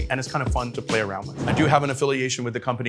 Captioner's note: graphic whooshing